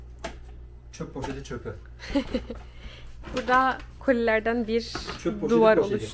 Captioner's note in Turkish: kahkaha